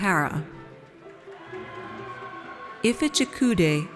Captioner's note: audience cheers